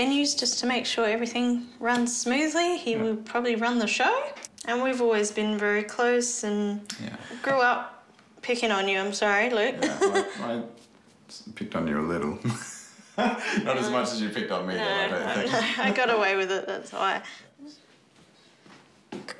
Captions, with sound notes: just to make sure everything runs smoothly. Yeah. He will probably run the show. And we've always been very close. Yeah. And grew up picking on you, I'm sorry, Luke. (CHUCKLES) Yeah, I picked on you a little. (LAUGHS) Not as much as you picked on me, though, I don't think. I got away with it. That's why.